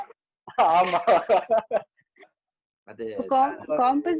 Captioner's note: laughs